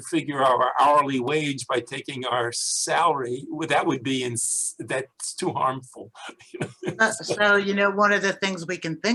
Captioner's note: pat